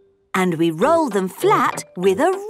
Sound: none

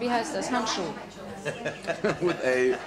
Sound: laughter

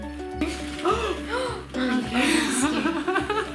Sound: gasping

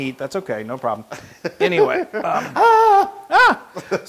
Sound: laugh

